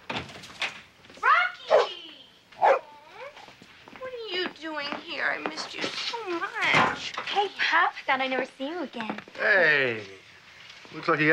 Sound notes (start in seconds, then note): 0.2 door opens; 2.6 Rocky barks